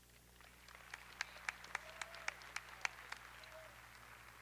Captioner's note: audience applauding